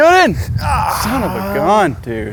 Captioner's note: groans